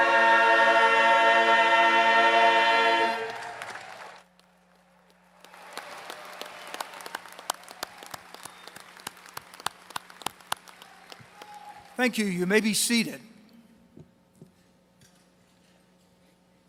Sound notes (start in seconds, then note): 3.2 applause